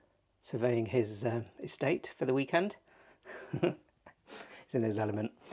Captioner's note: laughs